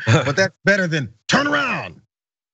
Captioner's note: laugh